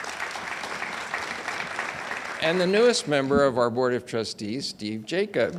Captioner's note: audience applauds